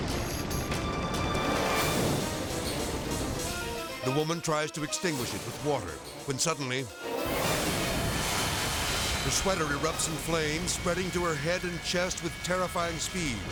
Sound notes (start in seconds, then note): 0.0 edgy dramatic music; 0.0 fire roaring; 0.3 edgy dramatic music; 7.2 fire exploding; 7.5 edgy dramatic music